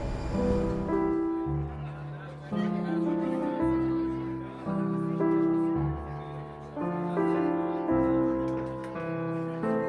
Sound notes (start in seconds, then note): 1.0 diners chattering